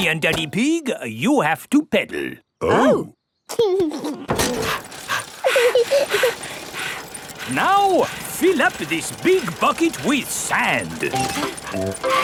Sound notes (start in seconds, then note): 4.4 daddy pig panting; 4.4 mummy pig panting; 5.0 chuckles; 5.8 peppa chuckles